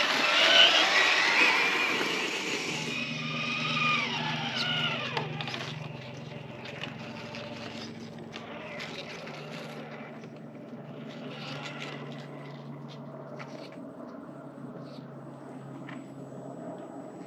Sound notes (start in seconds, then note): 3.0 vroom!